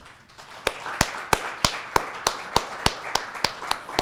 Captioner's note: audience clapping